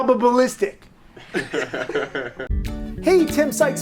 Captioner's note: all laughing